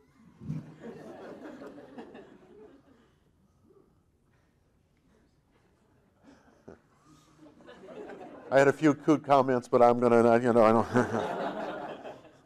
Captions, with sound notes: (audience laughing) I had a few cute comments, but I'm gonna (laughing).